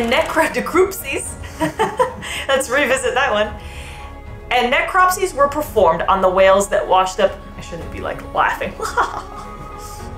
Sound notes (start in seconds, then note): 1.4 laughing; 1.4 laughs; 3.9 background music; 8.8 fake laughs